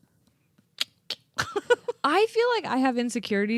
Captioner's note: laughing